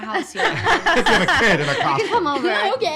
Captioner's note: laughing